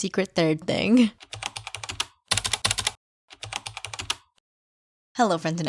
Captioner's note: typing